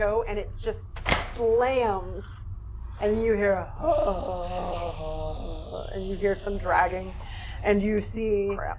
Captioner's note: zombie moaning